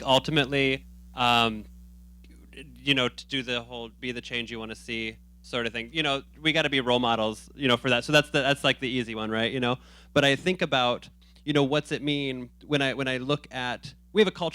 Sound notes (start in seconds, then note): none